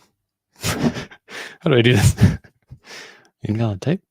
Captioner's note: laughs